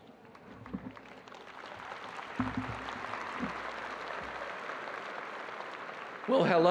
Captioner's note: audience applauding